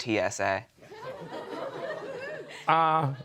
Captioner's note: audience chuckling